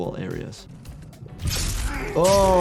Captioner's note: flesh squelching